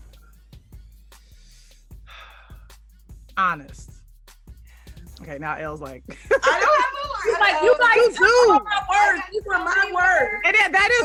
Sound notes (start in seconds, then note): 1.1 exhales sharply; 5.7 talking and laughing over each other